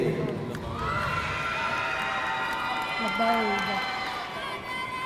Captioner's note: audience cheering